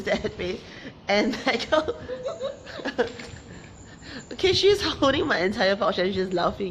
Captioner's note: laughs